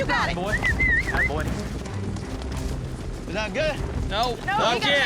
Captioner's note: whistling